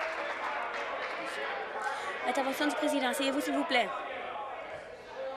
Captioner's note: applause